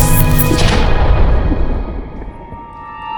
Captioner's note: buzzing sound; kaboom